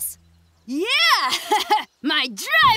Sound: laughing

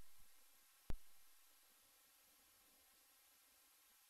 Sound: quiet TV static

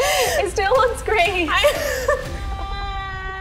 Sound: both laughing

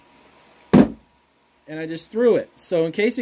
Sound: box thumping

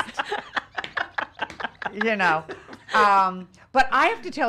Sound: laughing

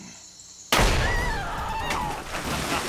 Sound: gunshot; screams

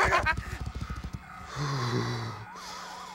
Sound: groans

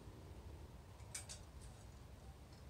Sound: click

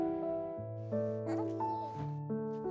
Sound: babbles

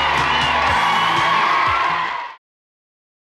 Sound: audience cheering

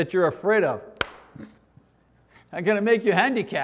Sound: hand smack

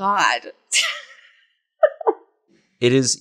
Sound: laughs

